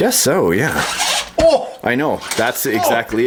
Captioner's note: voiceover; grunts